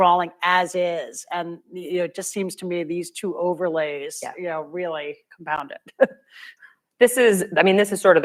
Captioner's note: laughs